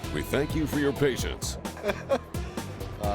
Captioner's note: laughing